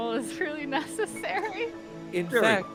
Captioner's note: chuckles